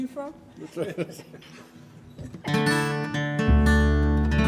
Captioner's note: laughs; chuckling; guitar strumming